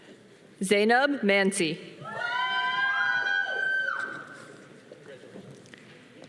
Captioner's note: audience cheering